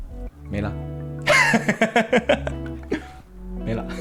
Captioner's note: laughs